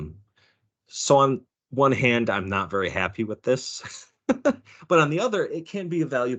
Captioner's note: laughing